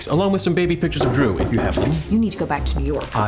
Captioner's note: knocking on door